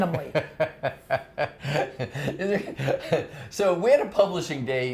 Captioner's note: laughing